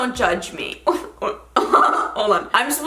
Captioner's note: laughing